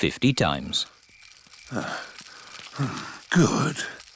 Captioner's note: panting